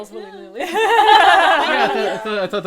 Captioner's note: laughter